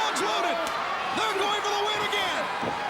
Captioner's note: crowd cheering